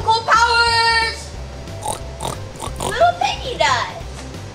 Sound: pig oinking

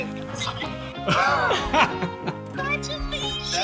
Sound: laughter

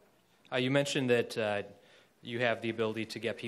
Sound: voiceover

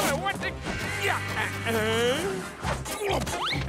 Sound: laughing

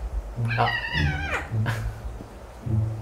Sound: Soul meows loudly

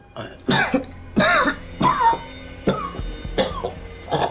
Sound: coughing

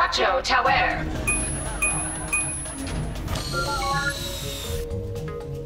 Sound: beeping

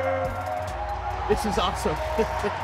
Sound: audience cheering

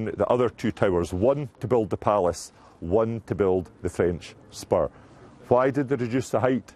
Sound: ? french ?

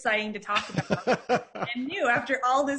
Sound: laughing

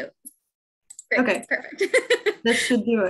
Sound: laughs

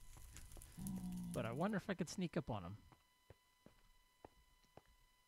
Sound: ghast squalls; pigman grunts

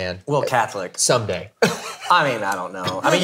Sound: laughs

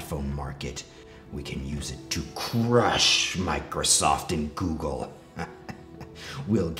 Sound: dark, epic music; laughs

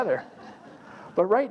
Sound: laugh

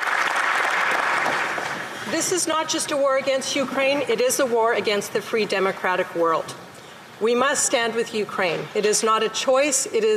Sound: applause

